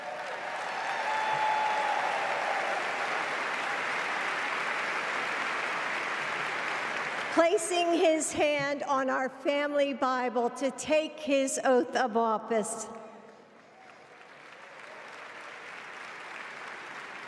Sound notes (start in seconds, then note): 4.4 applause